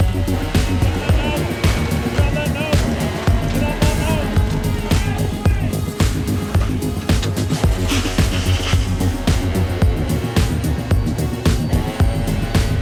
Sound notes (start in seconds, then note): 5.3 upbeat music; 8.0 water splashing; 10.1 upbeat music